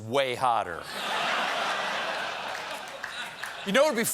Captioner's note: laughter